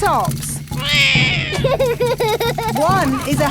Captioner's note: laughs; roars